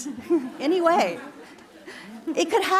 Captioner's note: laughter